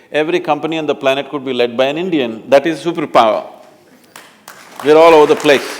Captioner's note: applause